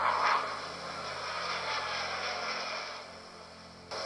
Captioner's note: jet engine noise